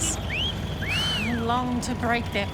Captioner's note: whistle